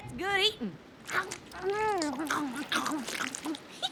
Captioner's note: slurping; giggles